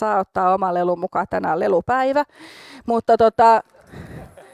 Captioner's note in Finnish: Taustalla vaimeaa, iloista naurua